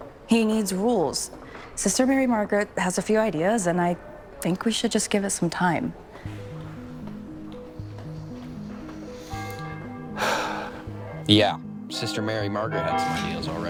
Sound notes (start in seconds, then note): 6.0 gentle music; 9.3 bell ringing; 10.1 Jason sighs